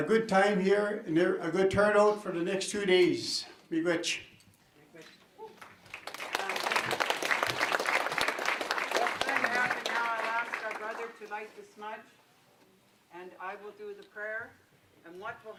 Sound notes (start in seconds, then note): 3.9 foreign words; 5.6 applause